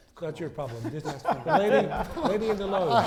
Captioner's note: laughter